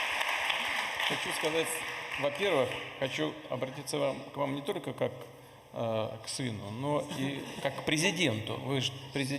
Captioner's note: laughter in the audience